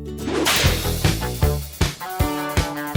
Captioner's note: whip sound